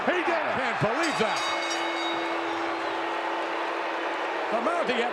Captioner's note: bell ringing